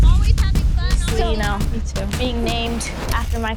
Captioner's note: overlapping chatter